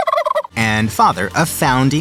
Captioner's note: turkey gobbles